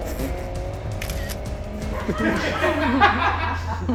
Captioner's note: tires screech; camera snaps; laughter